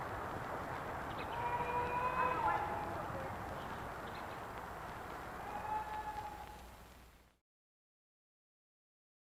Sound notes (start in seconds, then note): 1.2 hollers